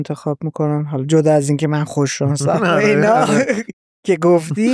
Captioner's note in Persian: خنده